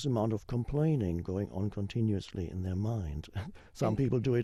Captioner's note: chuckles